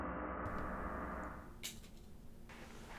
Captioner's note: tags hit ground